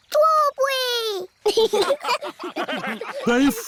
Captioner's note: laughter